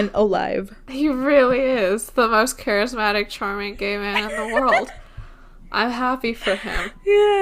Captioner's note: laughs